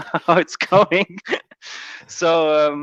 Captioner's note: laughs